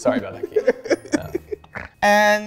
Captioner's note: laughs